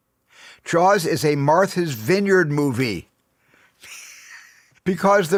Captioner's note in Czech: smích